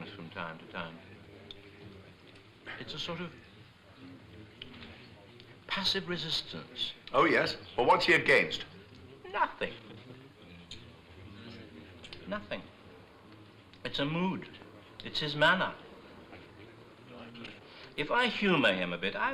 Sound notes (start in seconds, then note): none